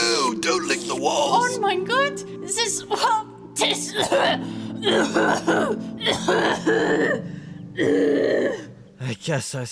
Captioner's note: violent coughing